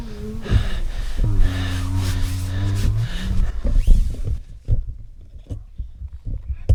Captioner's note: animal grunting; Jake breathing heavily; animal panting